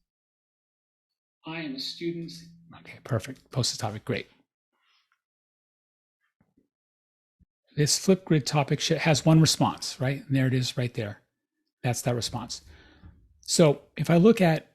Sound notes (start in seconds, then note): 1.5 recording playing